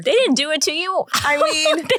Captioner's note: laughs